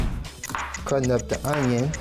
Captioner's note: clock ticks